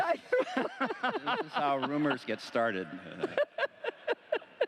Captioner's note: laughter